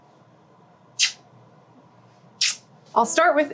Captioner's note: Gwyneth smooching